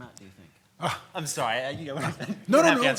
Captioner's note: scoffs